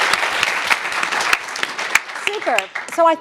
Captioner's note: audience clapping